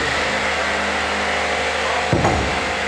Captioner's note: sawing in the background